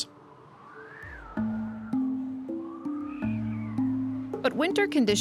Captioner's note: wind howling